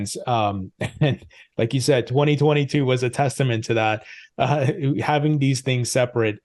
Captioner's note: chuckles